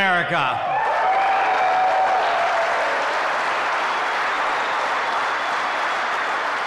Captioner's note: applause